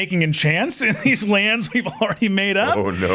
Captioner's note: chuckling